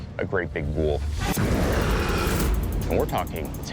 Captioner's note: snarling